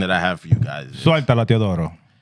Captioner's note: speaking Spanish